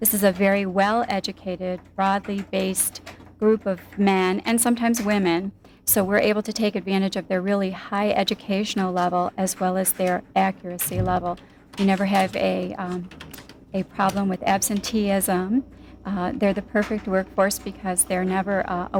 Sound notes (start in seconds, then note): none